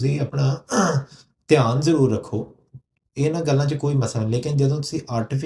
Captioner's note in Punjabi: ਗਲਾ ਸਾਫ਼ ਕਰਨ ਦੀ ਅਵਾਜ਼